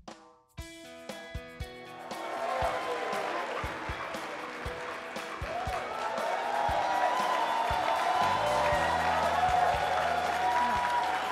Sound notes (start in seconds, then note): 2.6 crowd applauding